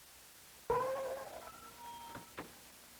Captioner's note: door creaks open